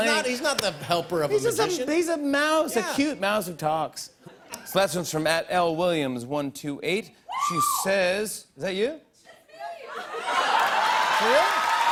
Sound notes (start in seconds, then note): 7.3 woman cheers; 9.9 laughter